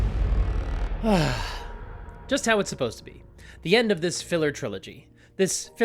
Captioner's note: satisfied sigh